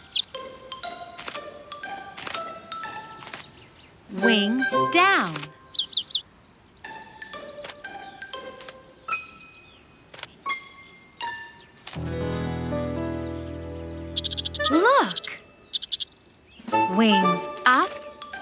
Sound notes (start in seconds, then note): 0.3 bouncy piano music; 6.0 chirping; 8.6 bouncy piano music; 12.0 guitar strumming; 13.3 squirrel noises; 16.7 bouncy piano music